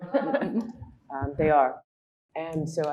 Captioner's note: audience chuckling